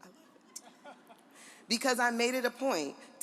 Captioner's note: audience laughs